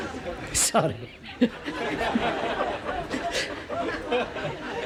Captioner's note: Risas